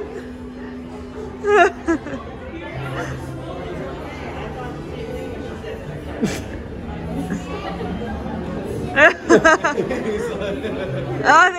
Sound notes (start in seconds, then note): 7.1 chuckling; 8.9 laughing